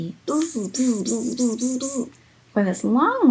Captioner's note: buzzing